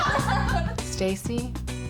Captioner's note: daters laughing